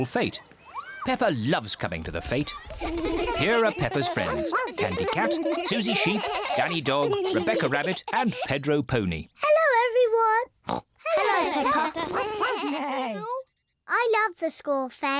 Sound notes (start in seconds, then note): 10.6 oinks; 11.3 all make animal noises